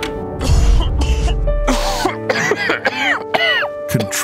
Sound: coughing

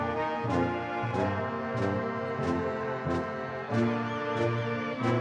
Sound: audience cheering

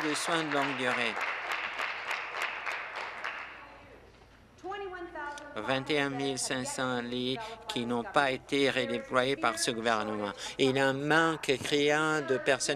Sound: applause

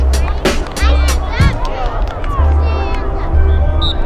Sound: cheering

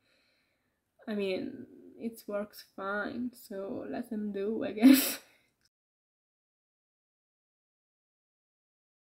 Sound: giggle

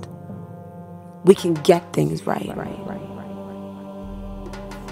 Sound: echoing

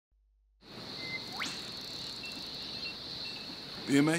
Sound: ambient nature sounds, bird calls

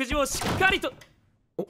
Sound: the door opens loudly

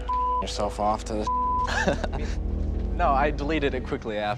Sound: beeping; laughing

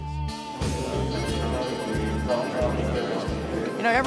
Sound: crowd chattering

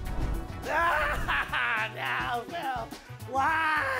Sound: laughs

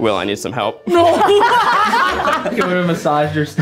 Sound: audience laughs

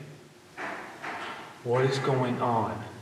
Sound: banging

